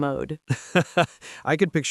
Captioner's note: laughing